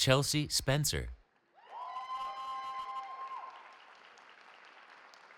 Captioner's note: cheering